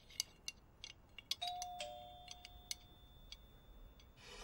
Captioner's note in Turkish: zi̇l çaliyor